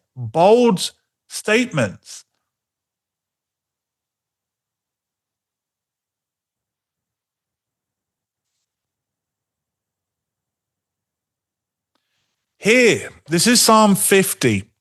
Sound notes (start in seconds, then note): 2.6 silence